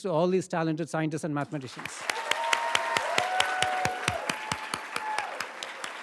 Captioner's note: everybody applauds